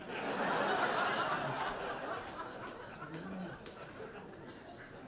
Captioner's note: audience laughing